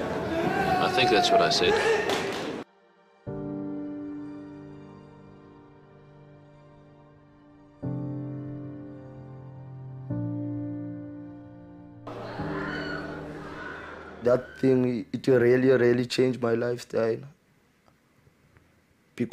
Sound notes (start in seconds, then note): 2.2 wailing; 3.2 somber music